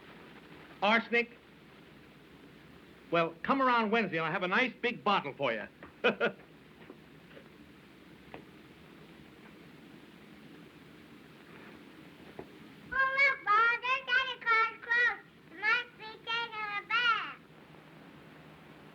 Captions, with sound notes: ARSENIC? WELL, COME AROUND WEDNESDAY AND I'LL HAVE A NICE, BIG BOTTLE FOR YOU. [ Chuckles ] OH, LOOK, MA, THERE'S SANTA CLAUS'S CLOTHES. HE MUST BE TAKING A BATH.